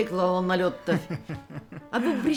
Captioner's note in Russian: смех